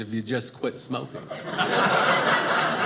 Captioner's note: audience laughing